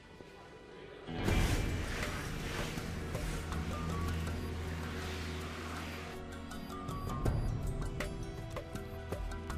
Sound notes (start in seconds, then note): 1.3 traffic rushing; 5.9 soft dramatic music